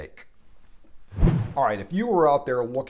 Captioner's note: whoosh sound